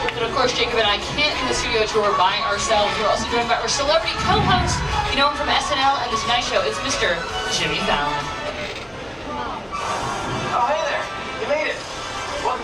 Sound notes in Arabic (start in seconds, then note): 4.1 صوت في الهواء